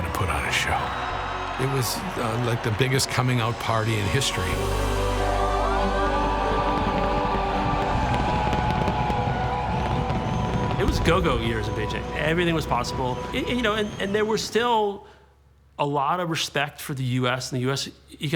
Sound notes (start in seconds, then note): 5.5 cheering